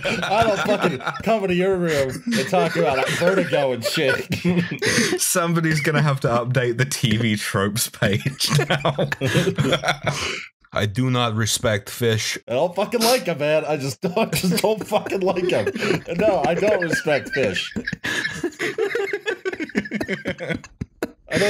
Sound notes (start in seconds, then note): 0.0 laughter; 1.9 laughter; 4.5 laughter; 8.0 laughter; 11.1 NY voice; 15.6 laughter; 17.5 laughter